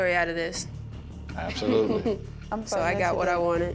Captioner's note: chuckles